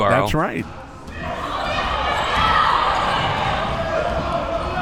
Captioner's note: spectators shouting